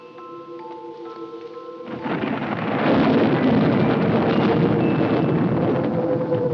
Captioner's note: thunderclap